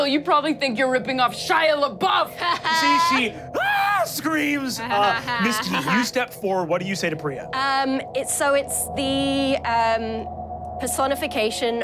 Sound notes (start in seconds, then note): 2.3 laughs; 2.6 screams loudly